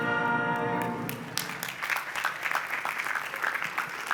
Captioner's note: applause